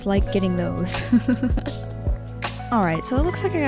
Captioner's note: laughing